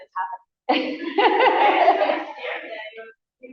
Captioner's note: laughter